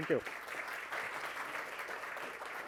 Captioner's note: applause